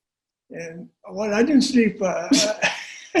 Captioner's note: laughter